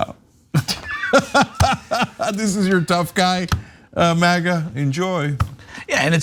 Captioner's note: laugh